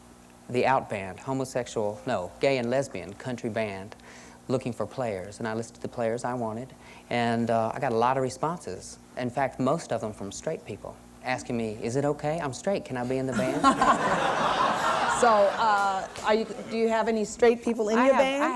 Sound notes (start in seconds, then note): 13.3 laughter